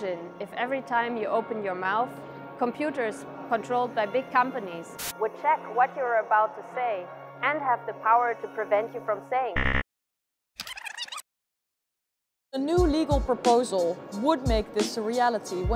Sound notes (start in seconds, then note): 9.6 ♫ rewind